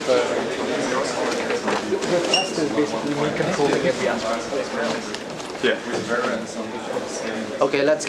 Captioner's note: background chatter